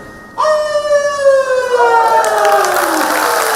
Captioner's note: howls